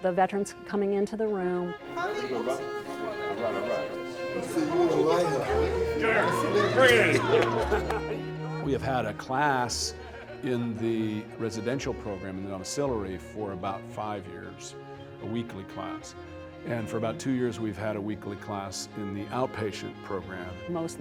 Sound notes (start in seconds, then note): 5.5 veterans chatting